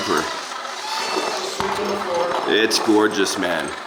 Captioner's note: truck loading